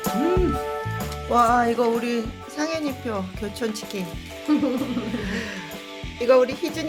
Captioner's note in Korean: 웃음